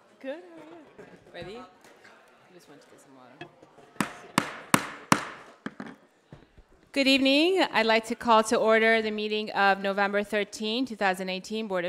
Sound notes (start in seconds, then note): 4.3 gavel tapping forcefully